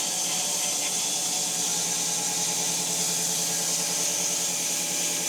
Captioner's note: saw buzzing continues